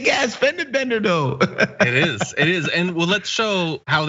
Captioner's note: laugh